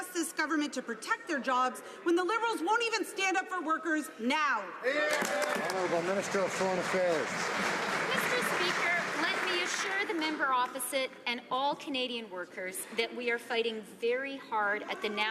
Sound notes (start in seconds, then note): 7.6 some Applause